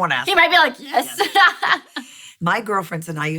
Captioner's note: laughing